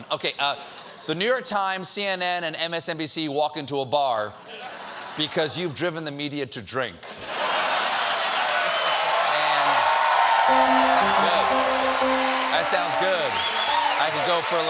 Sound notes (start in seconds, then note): 10.4 cheers and applause